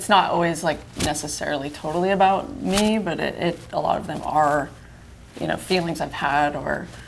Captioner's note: none